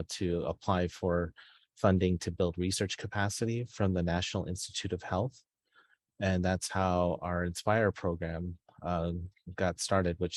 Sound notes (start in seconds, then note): none